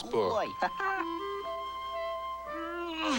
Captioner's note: laughs